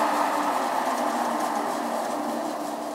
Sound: milling machine is switched off

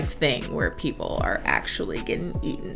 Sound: none

